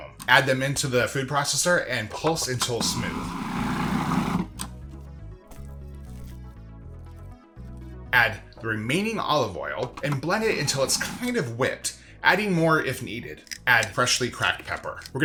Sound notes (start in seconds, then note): 2.8 food processor whizzing; 5.2 gentle music